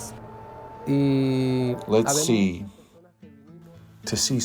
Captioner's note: Spanish